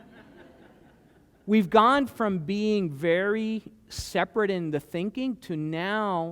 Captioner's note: laughter